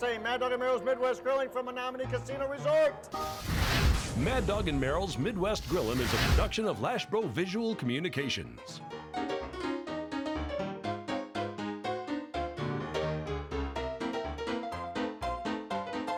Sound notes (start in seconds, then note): 3.1 flames blowing; 8.4 upbeat piano music